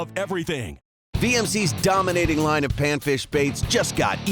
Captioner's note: voiceover